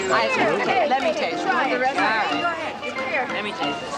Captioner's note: excited chattering